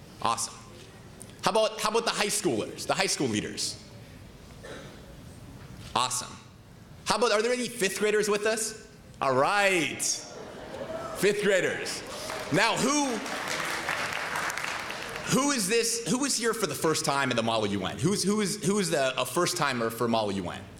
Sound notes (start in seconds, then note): 10.4 cheering; 12.0 applause